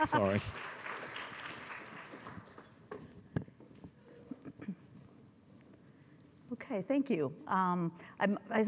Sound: applause

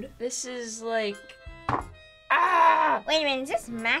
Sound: thud

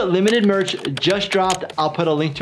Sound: keyboard clicking

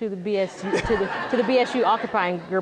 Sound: laughter

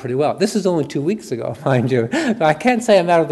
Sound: chuckles

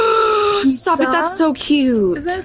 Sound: gasps

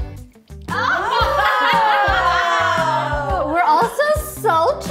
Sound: all laughing

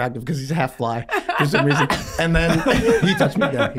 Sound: all laughing

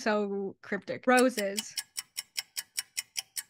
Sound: ticking nosies

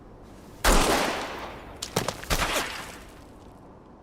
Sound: gunshots

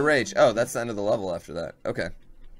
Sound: death audio

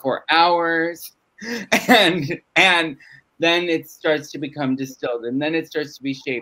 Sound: laughs

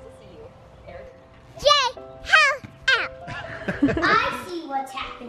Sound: child yells and laughs

